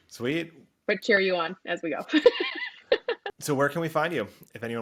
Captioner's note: laughs